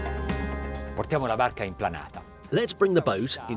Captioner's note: relaxing music; speaking in foreign language